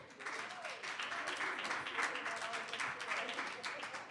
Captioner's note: audience applauding